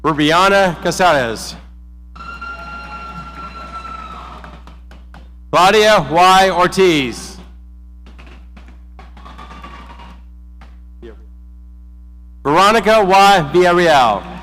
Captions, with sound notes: Rubiana Kasarez. (audience cheering) Claudia Y. Ortiz. Veronica Y. Bereal.